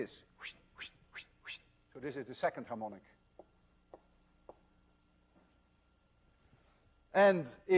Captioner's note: wssshhht